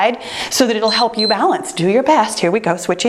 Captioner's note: timer beeps